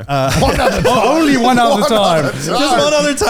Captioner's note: all laughing